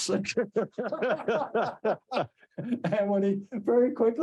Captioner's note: all laughing